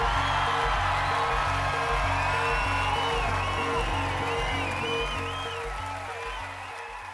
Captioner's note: applause